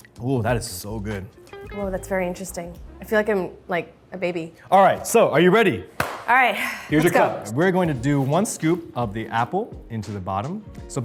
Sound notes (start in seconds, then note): 6.0 Arden claps